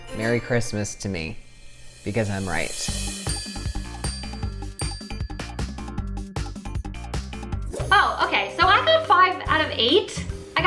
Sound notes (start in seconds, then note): 3.2 bells ringing; 5.3 peppy music; 7.8 whoosh